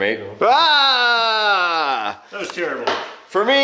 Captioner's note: exclaims